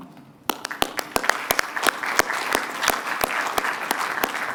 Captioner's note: applause